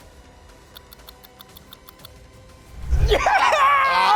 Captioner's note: clock ticks